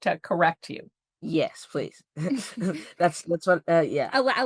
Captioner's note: chuckles